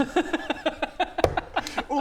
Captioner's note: amused laugh